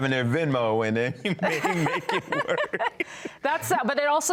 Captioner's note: both laughing